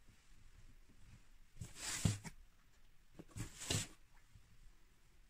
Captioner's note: box moving